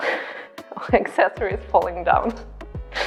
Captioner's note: laughs